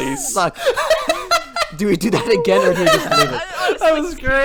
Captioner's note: still laughing in the background; everyone laughing at the horrible unison